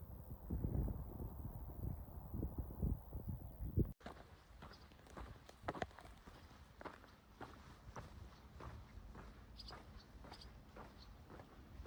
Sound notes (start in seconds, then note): 4.0 footsteps and swallows chatting